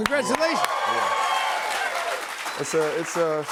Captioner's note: cheers and applause